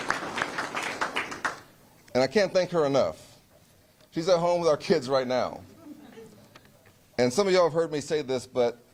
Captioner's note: applause